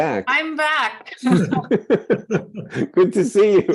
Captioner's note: participants laughing